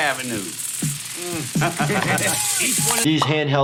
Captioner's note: Johnny laughs